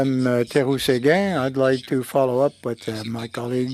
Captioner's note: speaking French